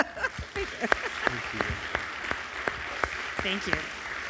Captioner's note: crowd clapping